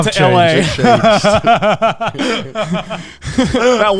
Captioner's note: all laughing